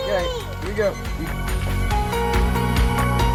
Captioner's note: grill beeps; gentle music